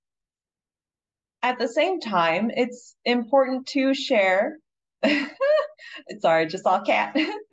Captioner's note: chuckles